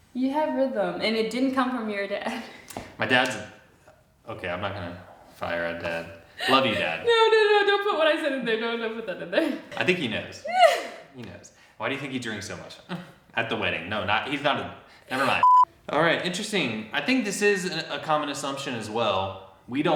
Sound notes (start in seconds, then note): 2.5 chuckles; 10.4 laughs